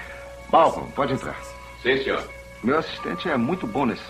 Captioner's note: on Intercom